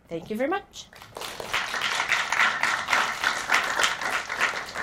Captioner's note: applause